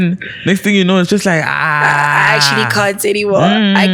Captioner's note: screams